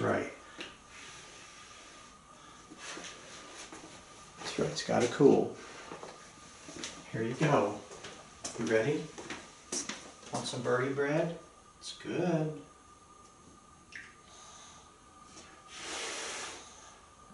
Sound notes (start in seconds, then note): 2.0 blows on bread; 14.3 Einstein blows softly